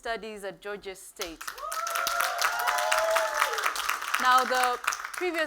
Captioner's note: applause